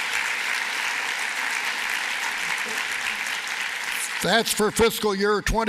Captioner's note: applause